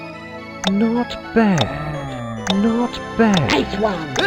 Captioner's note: groan